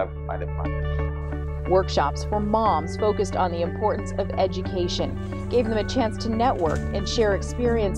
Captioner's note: voiceover